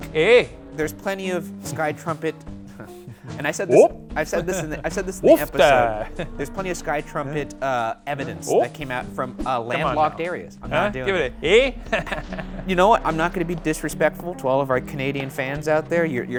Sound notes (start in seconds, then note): 3.7 chuckling; 11.8 snickering